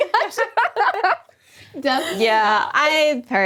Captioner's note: laughing